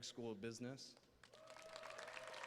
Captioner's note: applause